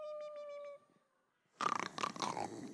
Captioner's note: snoring